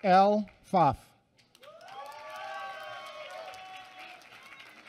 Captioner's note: applause